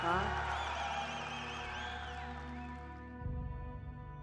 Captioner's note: audience cheering; slow, somber music